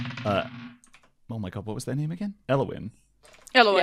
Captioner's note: good dice clacks